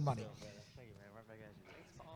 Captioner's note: group chattering